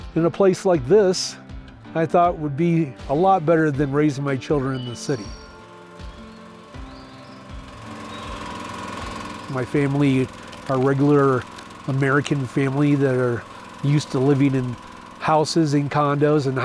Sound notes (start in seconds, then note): 8.3 machine whirring